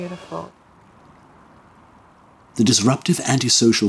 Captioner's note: strong wind blows